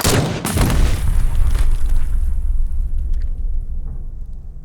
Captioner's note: pistol booming; explosion booming